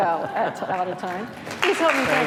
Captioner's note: audience applauding